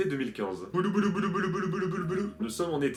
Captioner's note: rewinding sounds with my mouth